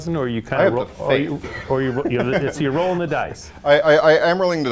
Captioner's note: giggles